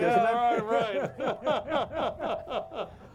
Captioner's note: all laughing